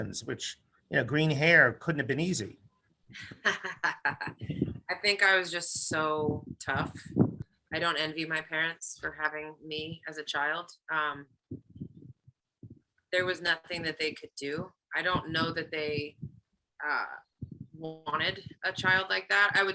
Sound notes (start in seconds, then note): 3.2 laughs